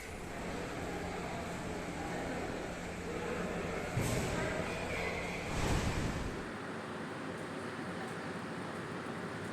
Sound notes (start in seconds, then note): 0.1 background Murmurings